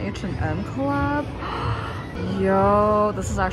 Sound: gasp

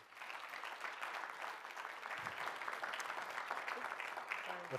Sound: audiences clapping

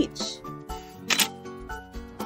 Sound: camera click

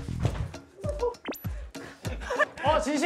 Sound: gasp!

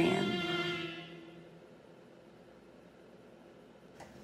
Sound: music stops

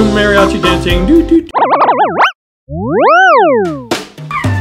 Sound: auto-tune sound effects; playful music

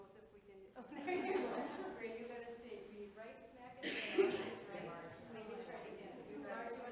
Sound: board members laughing; board members chattering softly

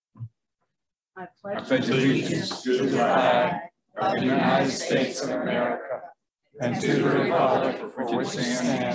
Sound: Pledge of Allegiance recited in unison

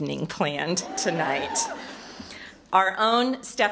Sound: audience hoots

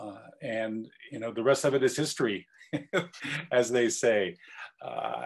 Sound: laugh

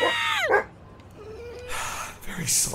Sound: dog whimpers

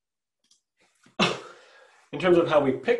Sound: coughs

